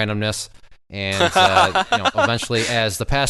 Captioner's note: laughing